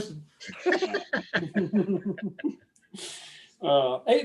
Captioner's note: chuckling